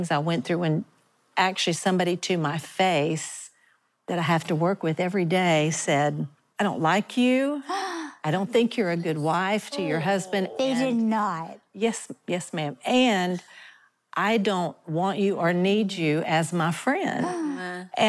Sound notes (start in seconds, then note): 7.7 gasps